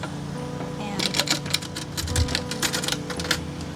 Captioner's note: latches opening